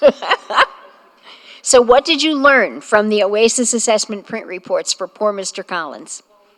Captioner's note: laughter